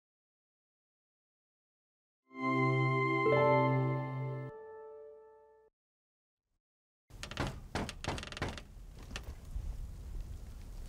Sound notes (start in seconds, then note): 2.3 upbeat music; 7.1 knocking